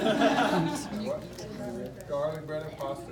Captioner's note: laughs